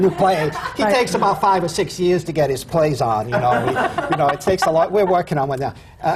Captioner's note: laughter